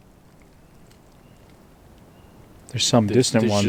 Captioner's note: birds chirping